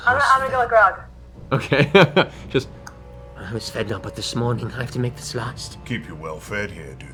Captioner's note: laughs